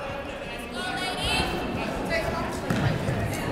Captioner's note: chattering